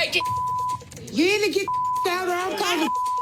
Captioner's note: beep